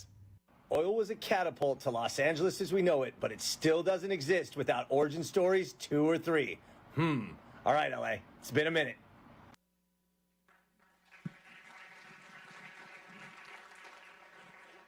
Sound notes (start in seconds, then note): 10.5 audience clapping